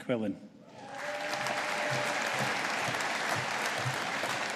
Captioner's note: audience applauding